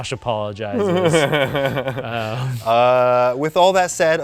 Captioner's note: laughs